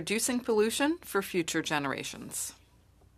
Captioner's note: speaking French